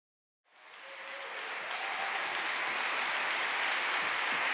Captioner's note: applause